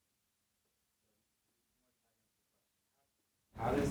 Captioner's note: muted